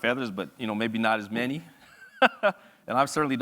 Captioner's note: laughs